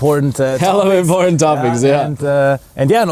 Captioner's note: laughs